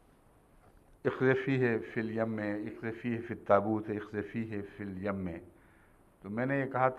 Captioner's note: Arabic